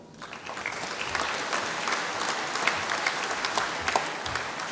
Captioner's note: applause